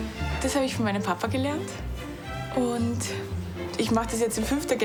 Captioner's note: speaking foreign language